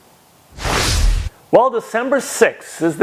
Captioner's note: graphics whooshing